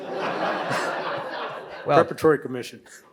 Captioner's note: audience laughs